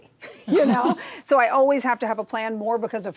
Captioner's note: chuckles